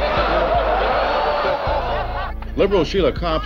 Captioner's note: laughter, oohing